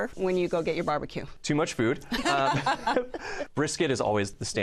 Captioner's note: laughter